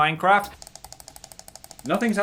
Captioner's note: soft tapping